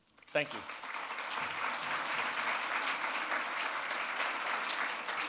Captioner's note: audience claps